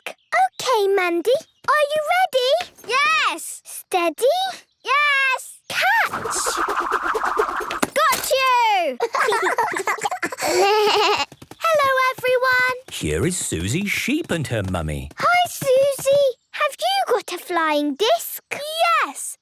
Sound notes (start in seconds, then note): 9.0 laughter; 10.2 bleating